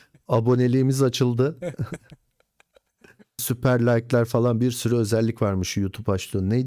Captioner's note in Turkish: kahkaha